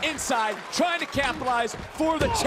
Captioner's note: crowd applauses